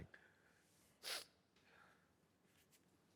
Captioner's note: sniffs